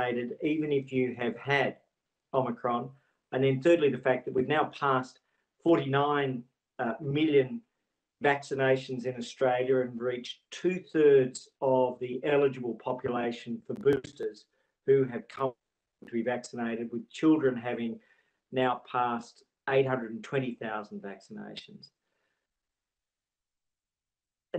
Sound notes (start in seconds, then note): 13.6 audio distorts